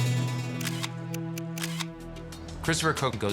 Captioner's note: dramatic music playing; shutter clicking